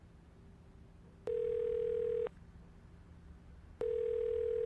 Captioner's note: phone ringing